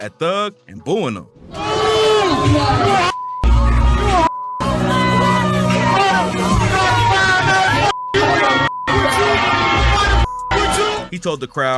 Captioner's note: booing/yelling